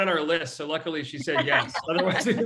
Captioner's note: laughs